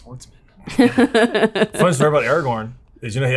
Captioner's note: laughing